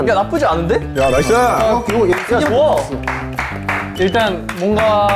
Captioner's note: satisfactory applause after self-praise